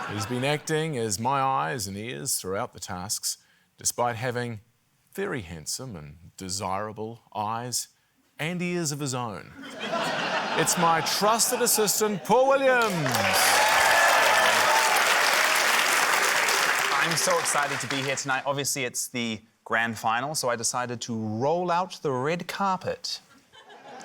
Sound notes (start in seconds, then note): 9.6 laughter; 12.1 cheering, applause; 23.5 laughter